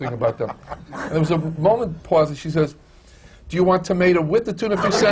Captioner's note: laughs